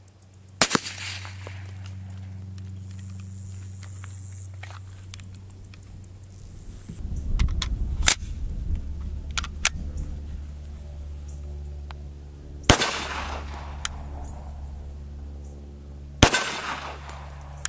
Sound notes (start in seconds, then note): 9.3 gun cocking